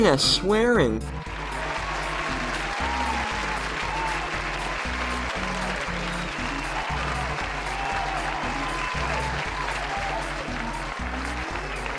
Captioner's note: applause